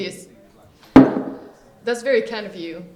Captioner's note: bottle clangs on table